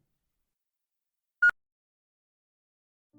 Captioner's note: beep